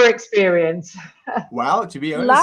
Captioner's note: chuckles